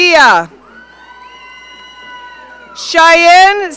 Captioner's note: audience cheering